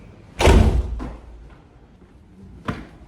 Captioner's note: door slams